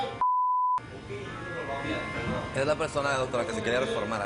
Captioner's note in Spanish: Bip